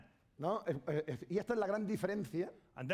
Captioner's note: speaking spanish